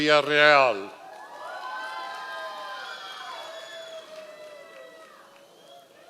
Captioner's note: members of the audience cheering